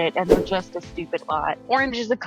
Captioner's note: text fwipping